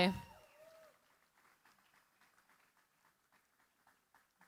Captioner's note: applause